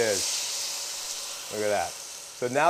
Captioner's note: pan sizzling